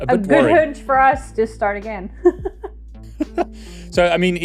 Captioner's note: laughs